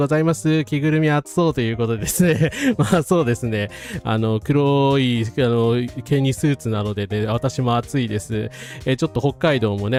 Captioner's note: laughs